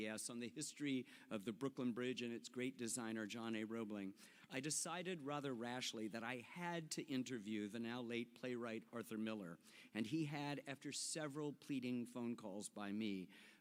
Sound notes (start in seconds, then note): none